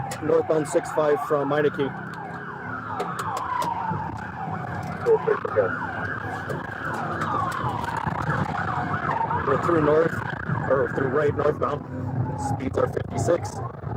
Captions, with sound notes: Northbound 65 from Meinecke (Radio chatter) We're through north, or through Wright northbound Speeds are 56,